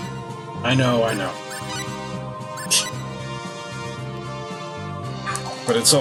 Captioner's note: laughs softly